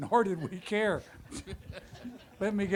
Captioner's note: audience laughter